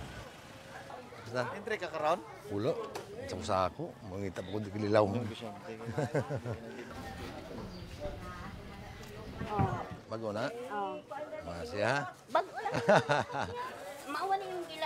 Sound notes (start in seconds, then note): 0.9 speaks in local dialect; 12.4 laughs